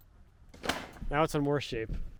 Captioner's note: siding thudding